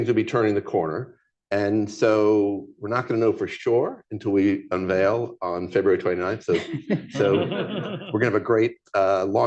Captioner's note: laughter